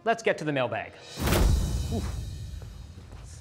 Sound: air whooshing

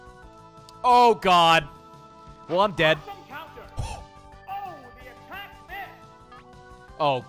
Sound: gasps

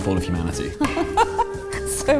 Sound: laughing

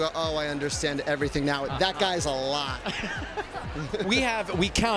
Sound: laughs

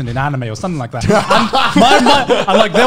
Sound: men laughing

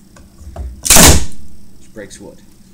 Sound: cracking

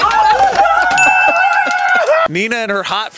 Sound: bell rings

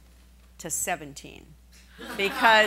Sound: laughing

